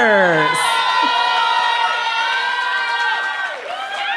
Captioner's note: cheering